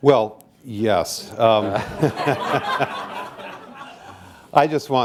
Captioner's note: laughter